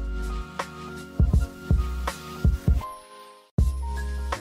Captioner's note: none